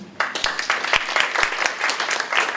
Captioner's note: applause